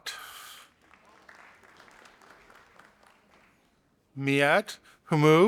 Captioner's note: audience applauding